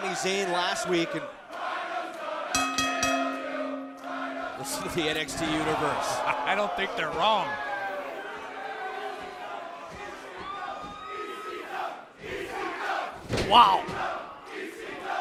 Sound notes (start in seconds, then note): 2.2 fans chanting; 2.5 bell rings; 11.5 fans chanting